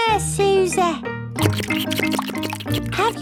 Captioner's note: slurping